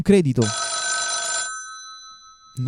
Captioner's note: phone rings